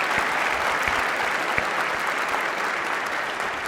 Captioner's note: applause